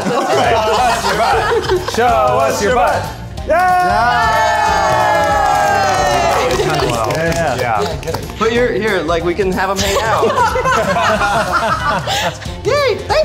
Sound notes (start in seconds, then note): 3.4 all cheering and clapping; 9.9 all laughing